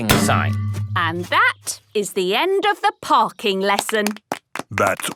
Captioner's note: clapping